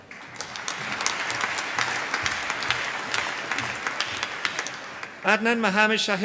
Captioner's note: applause